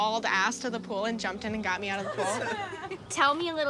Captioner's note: all laugh